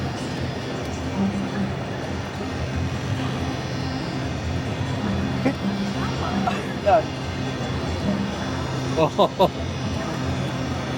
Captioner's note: crowd Chattering